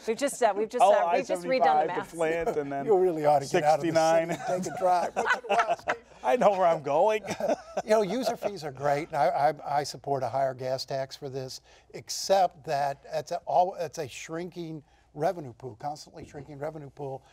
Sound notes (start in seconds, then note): 3.9 laughter